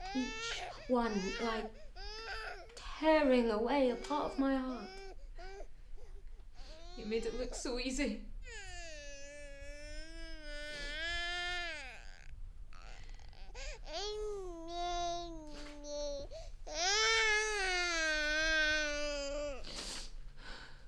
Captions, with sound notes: Each one like tearing away a part of my heart. - You made it look so easy. (baby crying)